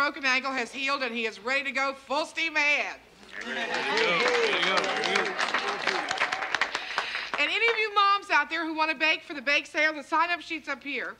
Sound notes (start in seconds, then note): 3.4 parents applauding